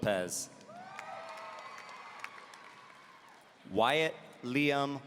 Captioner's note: audience cheering